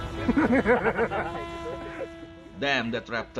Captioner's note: laughter